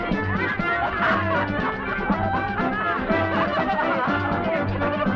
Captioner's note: group laughing